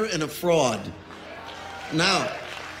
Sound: audience cheers and applauds

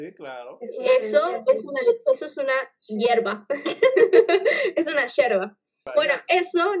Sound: repeats "herb" with Argentinian accent

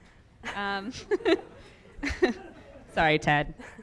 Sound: everyone laughs

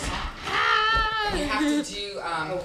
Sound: laughs

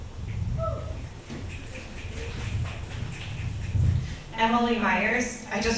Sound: select audience members cheer and clap

